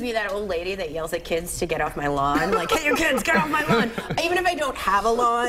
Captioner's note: laughter